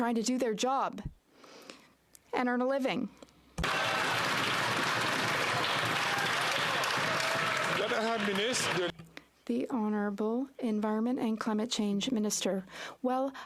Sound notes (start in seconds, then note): 9.8 some Applause